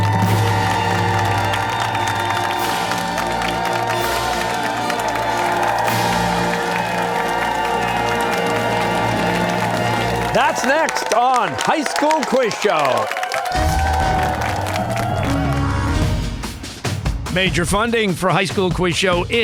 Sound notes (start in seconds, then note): 0.2 fanfare; 4.6 cheers and applause